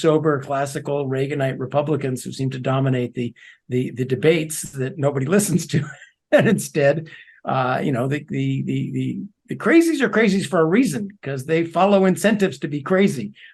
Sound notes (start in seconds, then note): 6.3 laugh